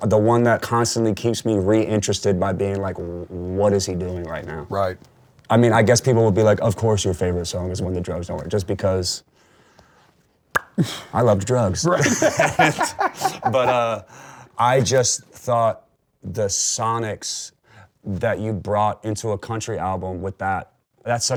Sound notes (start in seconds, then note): 10.5 smacks lips; 11.9 both laugh